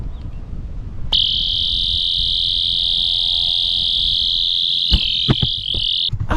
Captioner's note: alarm